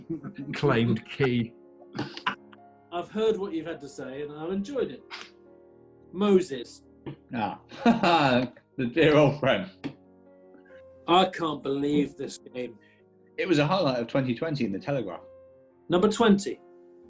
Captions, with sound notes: ...claimed Key. [CHUCKLING] I've heard what you've had to say, and I've enjoyed it. Moses. Ah. [LAUGHS] The dear old friend! I can't believe this game. It was a highlight of 2020 in the Telegraph. Number 20.